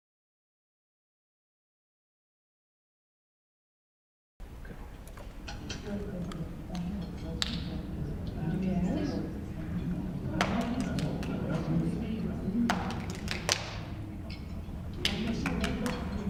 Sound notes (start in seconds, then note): 6.7 murmurs from the audience; 10.7 rhythmic clapping